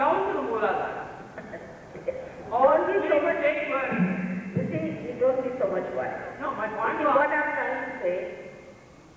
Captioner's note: Shri Mataji Laughs